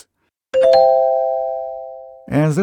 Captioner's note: pleasant ding